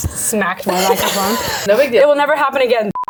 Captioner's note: laughing